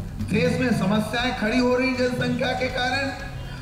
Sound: non-english speech

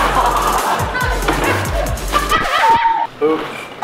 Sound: laughing; screaming; record scratching

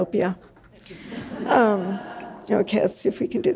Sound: audience laughs

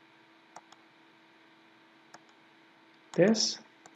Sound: mouse clicking

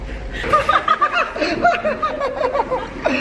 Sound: laughing

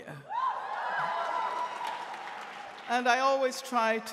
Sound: audience cheering

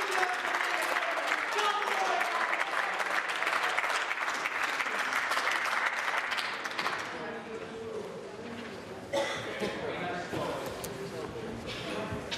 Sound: applause

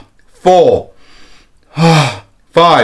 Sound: inhale and exhales

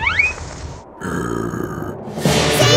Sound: growling

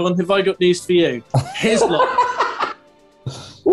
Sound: laughter

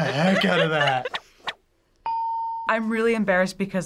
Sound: ding

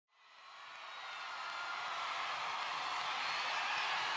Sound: cheering

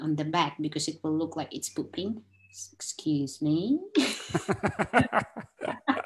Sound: laughs

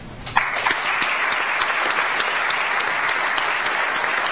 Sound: audience applauds

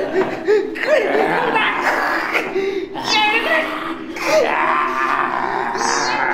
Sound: gasp, gasp; grunt, grunt; zombie groan

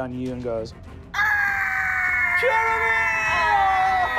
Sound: screams

